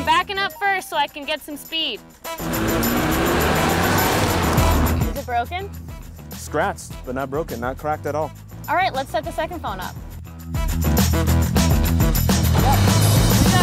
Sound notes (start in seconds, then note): 2.3 car revving